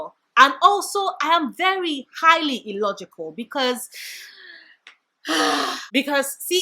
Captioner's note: sigh